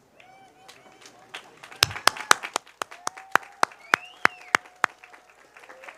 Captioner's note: cheers, applause